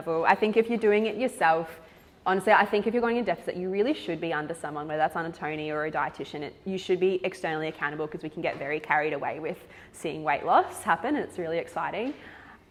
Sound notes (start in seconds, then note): none